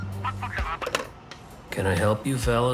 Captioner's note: phone hanging up